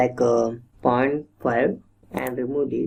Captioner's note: typing